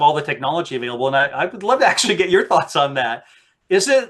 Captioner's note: laughs